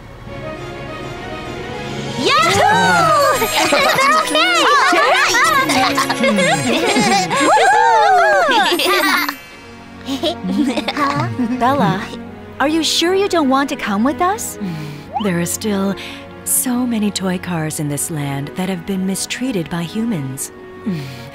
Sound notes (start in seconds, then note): 5.2 cheering; 10.1 giggles